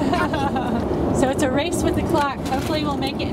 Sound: laughing

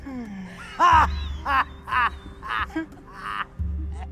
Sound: laughter of Pereplut

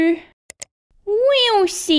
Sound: click!

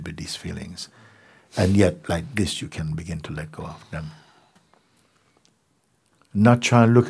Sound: clicks

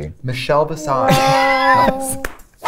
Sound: laughter

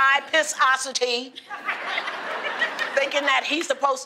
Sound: laughter

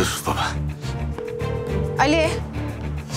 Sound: call tone

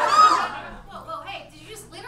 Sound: audience laughs

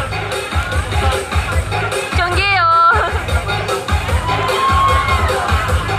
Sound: cheers In Thai

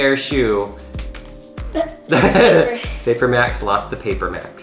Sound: both laughs

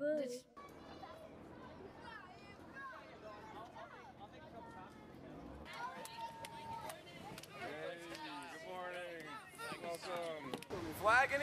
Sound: children's voices

